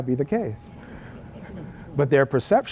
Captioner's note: laugh